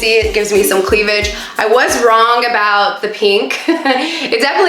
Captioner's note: laughs